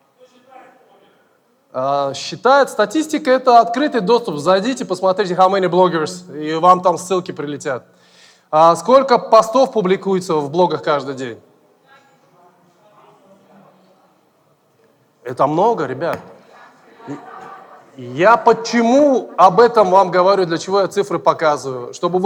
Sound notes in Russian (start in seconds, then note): 11.7 голоса из зала